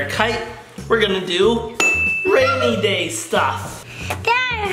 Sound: ding

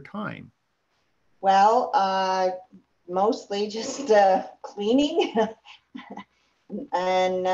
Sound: laughs

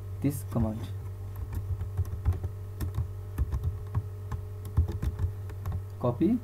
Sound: typing Sound

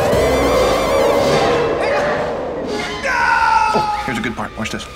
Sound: roaring

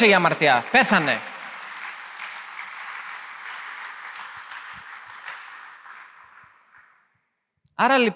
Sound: applause

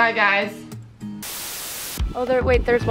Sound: static

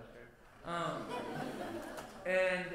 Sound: laughter

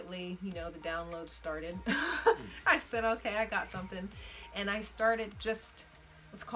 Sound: laughs

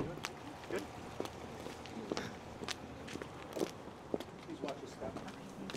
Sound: footfalls

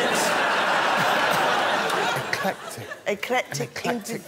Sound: laughter

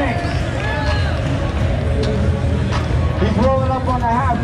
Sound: clapping

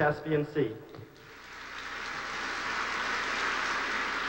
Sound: applause

